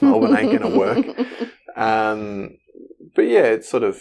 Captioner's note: giggles